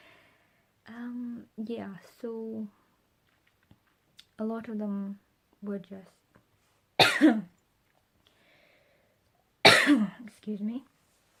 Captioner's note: coughs